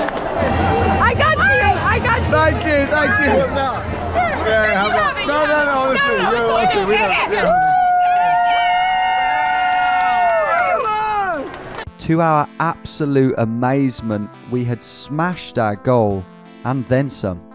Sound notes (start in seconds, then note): 4.0 all chattering indistinctly